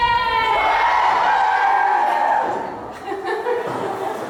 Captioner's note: cheering